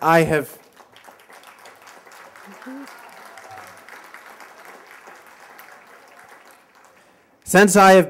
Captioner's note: applause